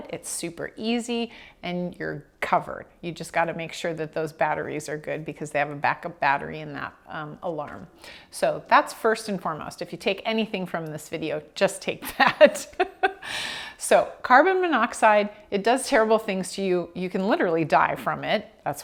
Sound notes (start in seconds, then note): 12.1 laughing